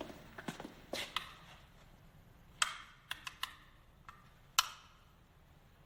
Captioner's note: light switches click